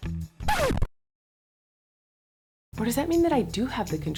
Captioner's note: record screeching